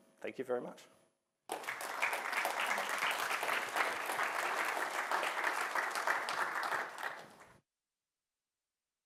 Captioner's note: applause